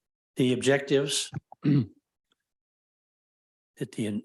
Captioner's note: clears throat